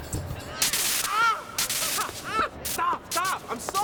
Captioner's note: electricity crackling; Jake screams